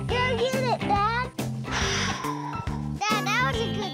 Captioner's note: whack; sighs